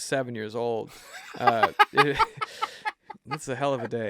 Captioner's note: laughs